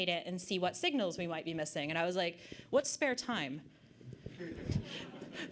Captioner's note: audience Laughter